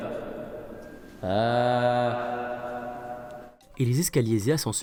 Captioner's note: with echo